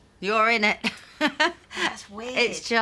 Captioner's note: laughs